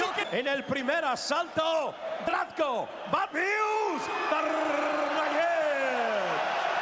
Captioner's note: cheers; shouting